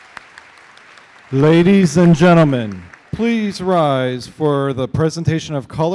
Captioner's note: applause